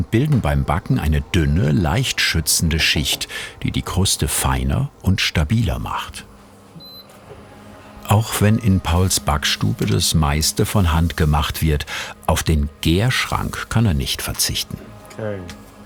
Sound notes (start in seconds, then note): 6.8 beeping